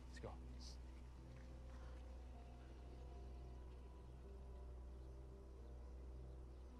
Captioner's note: birds chirping; tense music